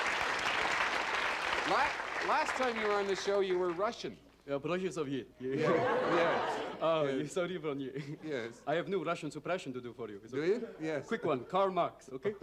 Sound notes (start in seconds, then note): 0.0 applause and cheering; 5.5 laughter; 5.5 speaks in Russian; 7.8 speaks in Russian